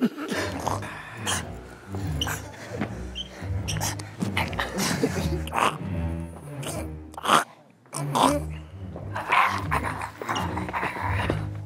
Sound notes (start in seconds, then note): 7.6 in zombie language